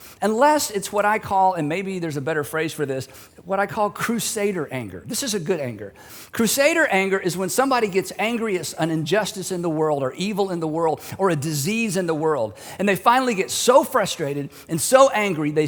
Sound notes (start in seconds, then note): none